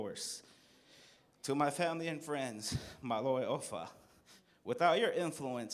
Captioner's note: non-english